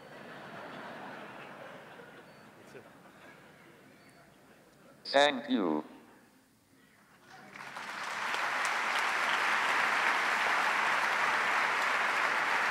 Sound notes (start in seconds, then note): 0.0 audience laughs; 7.3 audience applauds